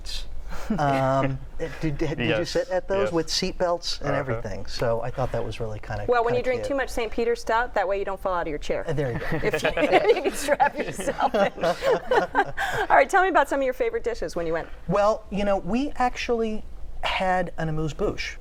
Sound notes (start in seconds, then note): 9.0 laughing